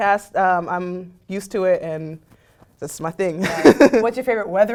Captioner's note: laugh